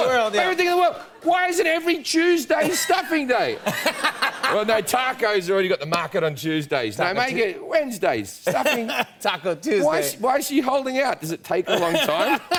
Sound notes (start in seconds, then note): 2.6 laughter; 11.6 laughter